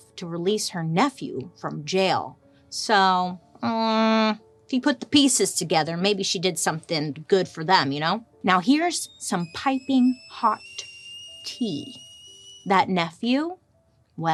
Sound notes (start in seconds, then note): 8.8 kettle whistling